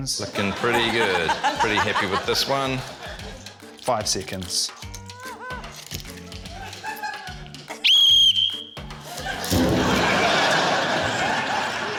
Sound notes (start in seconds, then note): 7.8 whistle trills; 9.0 laughter